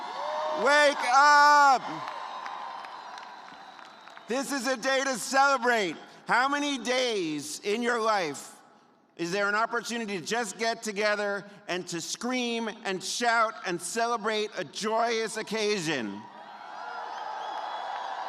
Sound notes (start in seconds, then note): 0.0 cheers and applause; 4.0 cheers